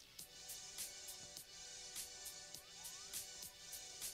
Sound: none

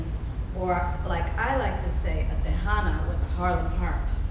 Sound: speaking foreign language

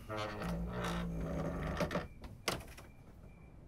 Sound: door creaks

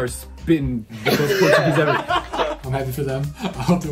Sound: participants laugh

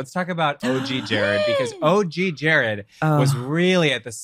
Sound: laughs

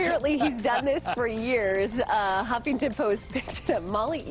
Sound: laughter

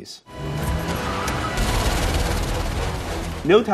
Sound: tire squeal, guns fire

